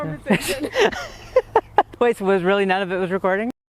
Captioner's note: laughs